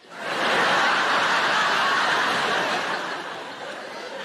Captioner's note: audience laughing